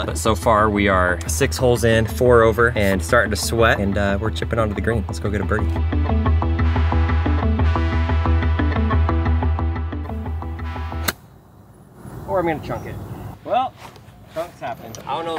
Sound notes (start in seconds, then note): 5.0 dramatic music; 11.0 golf club pings